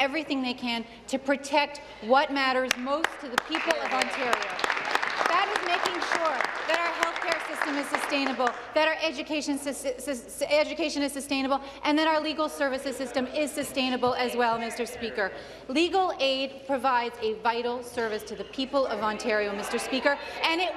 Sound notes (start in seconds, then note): 7.0 applause